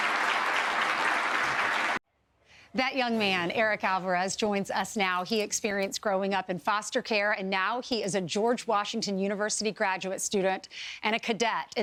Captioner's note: applause